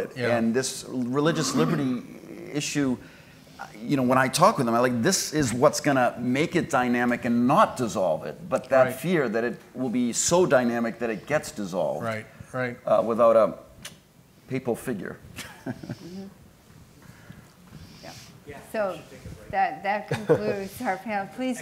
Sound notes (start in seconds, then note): 15.4 laughs